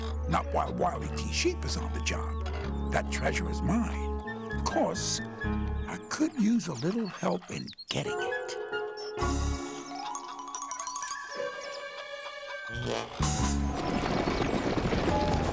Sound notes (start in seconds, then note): 11.3 sheep stampeding